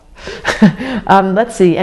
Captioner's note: laughs